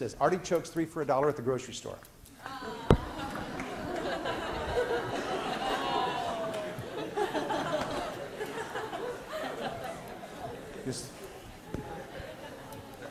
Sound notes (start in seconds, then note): 2.4 class laughing and groaning